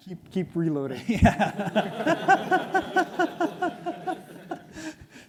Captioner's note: laughs; audience laughs